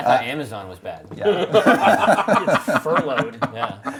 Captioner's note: group laughs